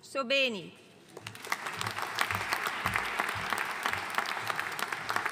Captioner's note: audience applauding